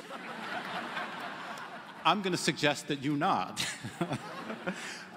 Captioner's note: laughter